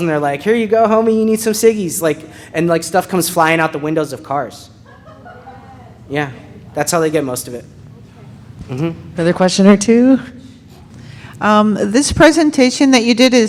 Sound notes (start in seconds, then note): 5.0 audience member laughing